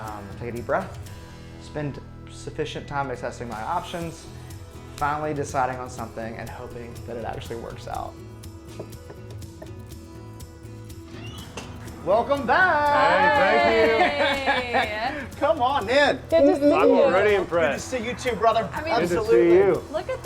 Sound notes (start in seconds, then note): 8.7 knocks; 13.1 laughs